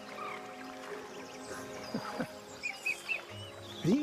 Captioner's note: chuckles